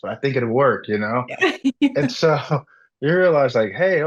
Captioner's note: laughs